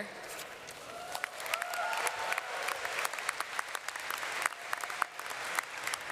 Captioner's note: audience cheering and clapping